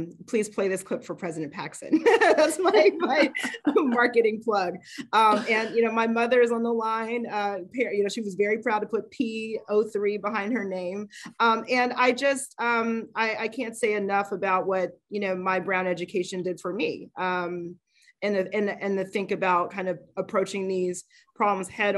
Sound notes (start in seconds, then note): 2.0 laughs